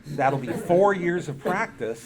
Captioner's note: audience laughing